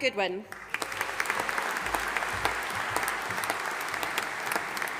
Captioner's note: audience applauding